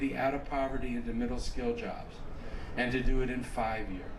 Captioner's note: none